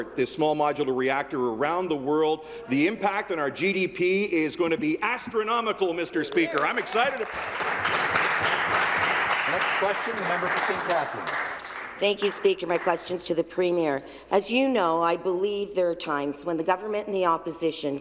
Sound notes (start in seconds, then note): 10.4 applause